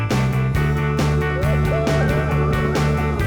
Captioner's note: whooping